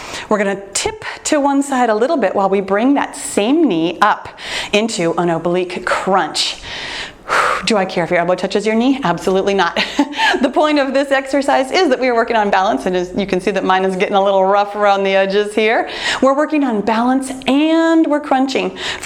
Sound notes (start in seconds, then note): 6.6 exhales; 10.0 laughs